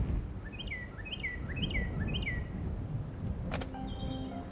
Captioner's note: bird chirping